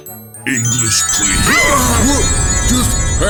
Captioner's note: mario, peach, and bowser scream